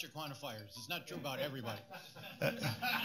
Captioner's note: laughter